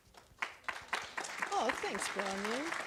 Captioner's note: audience applauds